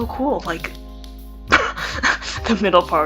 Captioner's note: starts laughing